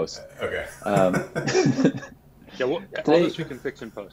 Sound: laughing

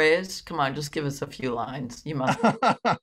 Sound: laughs

